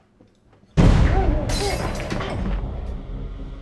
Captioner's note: glass shattering; muffled screaming; dramatic music